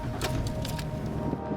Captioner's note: truck starting